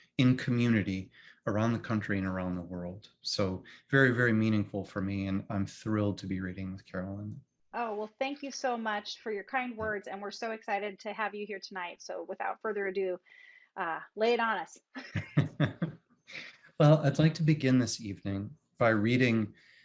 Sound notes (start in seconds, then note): 15.1 chuckling